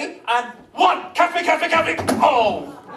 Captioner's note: thump